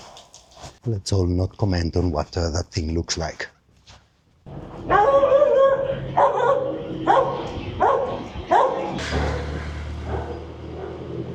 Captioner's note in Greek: γάβγισμα σκύλου